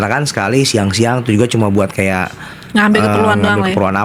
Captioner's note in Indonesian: tertawa